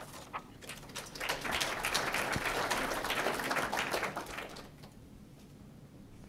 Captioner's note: group applauds